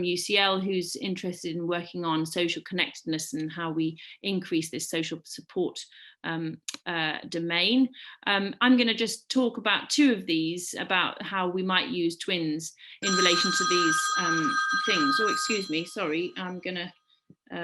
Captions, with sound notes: UCL who's interested in working on social connectedness and how we increase this social support domain. I'm going to just talk about two of these about how we might use twins in relation to these things.[phone rings] So excuse me, sorry, I'm going to,